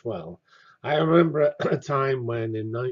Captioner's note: cough